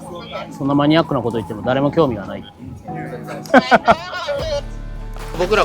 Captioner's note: laughs